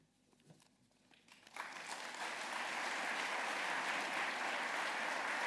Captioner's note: applause